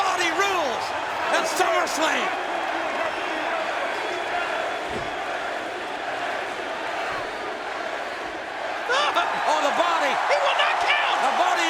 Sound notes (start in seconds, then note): 4.5 crowd chanting